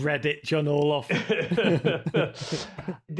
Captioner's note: both chuckling